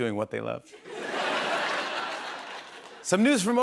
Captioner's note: laughter